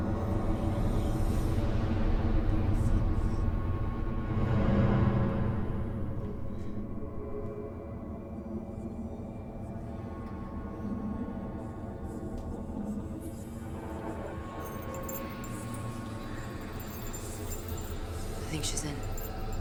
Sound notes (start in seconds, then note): 4.0 dramatic music; 9.7 eerie whispering